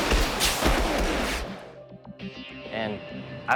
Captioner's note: jet engine roaring; shots firing